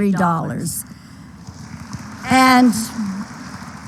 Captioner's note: applause